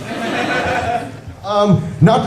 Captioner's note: laughter